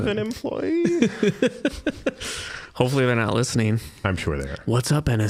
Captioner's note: laughing